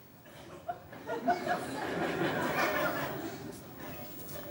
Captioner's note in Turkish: Kahkaha sesleri